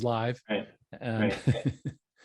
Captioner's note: laughing